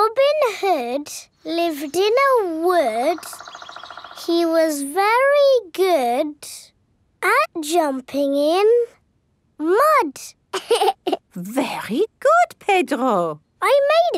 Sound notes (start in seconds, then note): 10.5 laughs